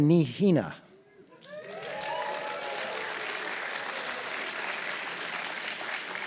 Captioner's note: applause